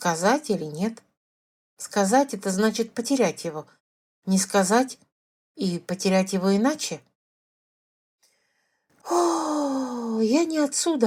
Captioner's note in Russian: тяжело вздыхает